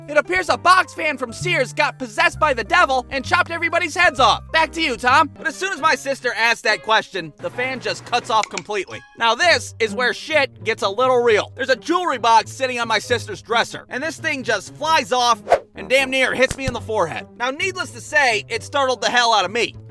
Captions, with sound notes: "It appears a box fan from Sears got possessed by the Devil and chopped everybody's heads off!" "Back to you, Tom!" But as soon as my sister asked that question, the fan just cuts off completely Now this is where shit gets a little real There's a jewelry box sitting on my sister's dresser And this thing just flies off [Whoosh] And damn near hits me in the forehead Now, needless to say, it startled the hell out of me